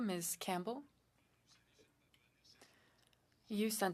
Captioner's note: speaking French